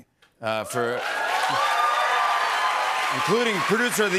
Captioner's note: cheers and applause